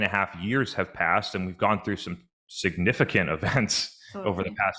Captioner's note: chuckles